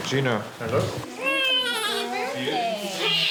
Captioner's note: baby cries, delivery room sounds